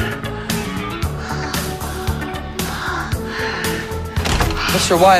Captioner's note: breathing heavily